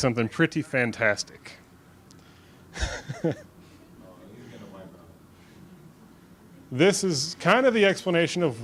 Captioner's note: laughs